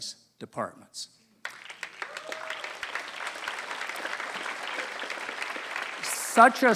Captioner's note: applause